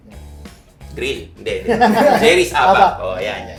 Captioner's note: everybody laughs